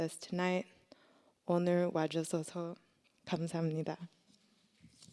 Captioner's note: speaking korean